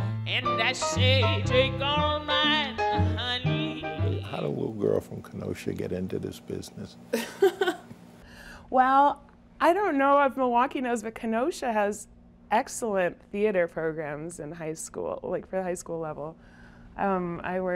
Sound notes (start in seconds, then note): 7.2 laughs